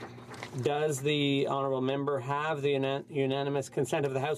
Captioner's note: some Applause